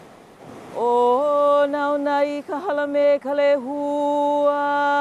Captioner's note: chanting in Hawaiian